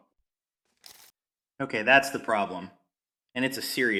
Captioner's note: pause